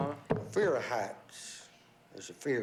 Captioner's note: in a southern accent